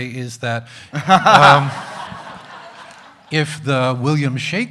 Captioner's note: laughs loudly